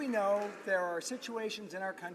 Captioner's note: some Applause